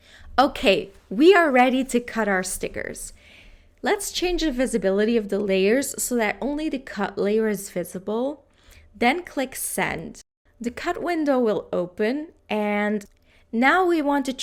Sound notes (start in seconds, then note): none